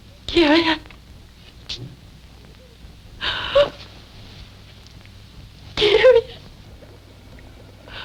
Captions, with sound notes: Kerian? (whimpering) Kerian?